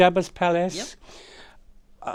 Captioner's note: catches breath